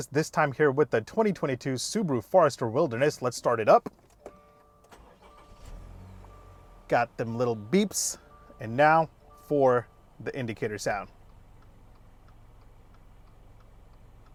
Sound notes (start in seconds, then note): 4.2 beeps; 4.9 engine revs; 11.3 hushed beeping